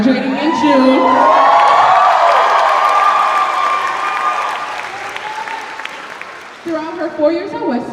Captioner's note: cheers and applause